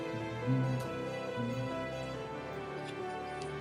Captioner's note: humming along